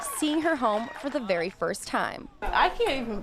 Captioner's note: cheering